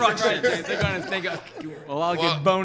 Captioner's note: laughs